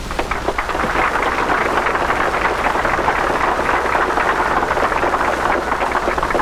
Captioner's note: applause